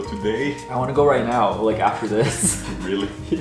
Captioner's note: chuckles